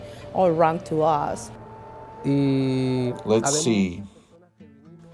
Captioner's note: Spanish